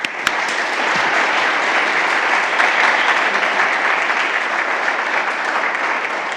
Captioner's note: audience clapping